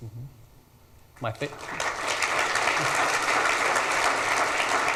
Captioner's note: audience applauds